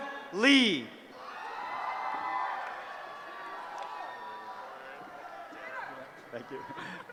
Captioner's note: cheering